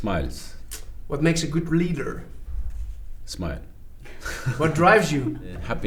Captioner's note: both laugh